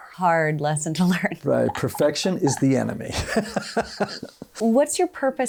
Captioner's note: laughs